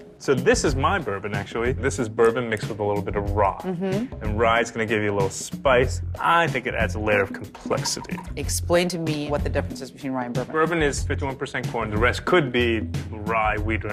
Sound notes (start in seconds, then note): none